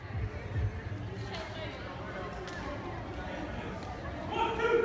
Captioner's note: people chattering